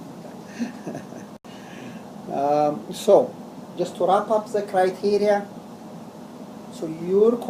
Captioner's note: laugh